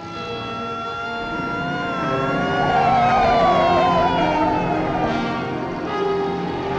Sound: crowd shouting; sirens blaring; tires squealing; suspenseful music

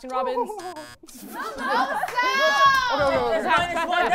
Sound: laughter

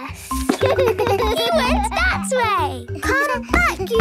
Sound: giggles

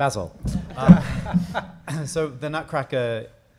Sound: audience laughing

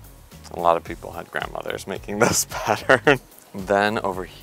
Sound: chuckles

